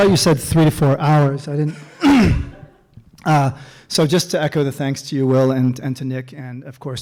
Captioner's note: clears throat